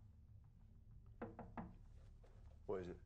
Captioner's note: nicu taps on window